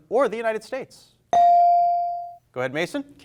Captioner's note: bell rings